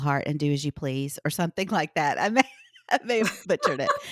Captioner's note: laughs